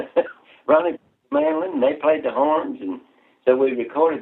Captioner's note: laughter